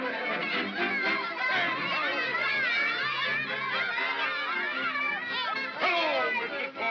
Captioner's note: celebratory chatter; jovial music; children yammering; jovial music